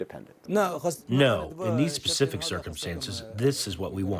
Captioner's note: through translator